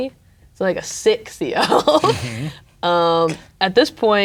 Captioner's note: laughing